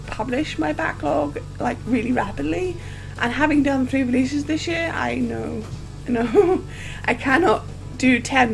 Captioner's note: laughs